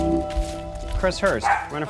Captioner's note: doorbell ringing